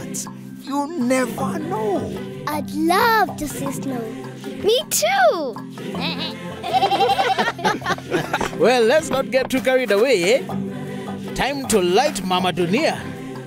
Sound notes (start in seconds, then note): 6.0 bleating, laughing